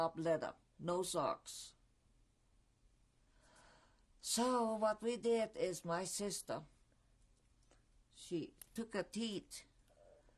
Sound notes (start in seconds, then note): 0.7 pauses for 3 seconds